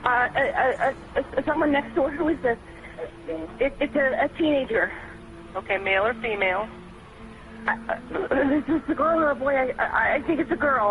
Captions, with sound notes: - Uh, uh, someone next door. Who is this? It's a teenager. - Okay, male or female? - [stammers] Is this a girl or a boy?